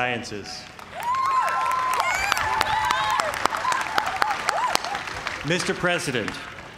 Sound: cheers and applause

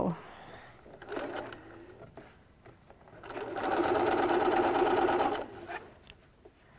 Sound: machine running

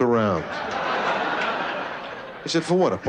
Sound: laughter

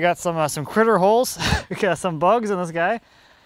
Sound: laughing

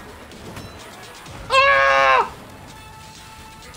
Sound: screm of exasperation

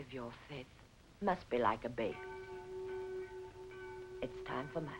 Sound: bells tolling

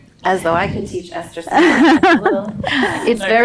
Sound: laughing

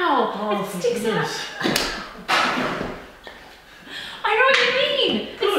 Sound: laughing

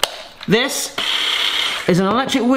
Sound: electric whisk wiring

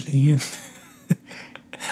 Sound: laughs

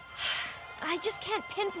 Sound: sighing

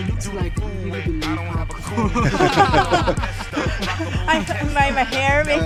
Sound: laughing

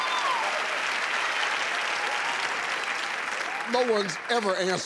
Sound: crowd cheering

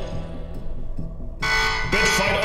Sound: alarm blaring, ruh roh raggy

